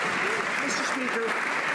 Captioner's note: some Applause